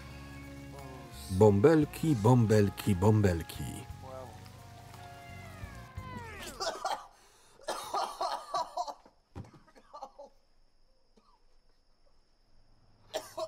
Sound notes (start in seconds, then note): 5.9 coughing